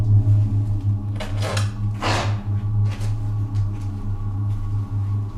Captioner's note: floor cracking